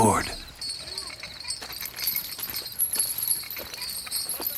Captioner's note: chain rattles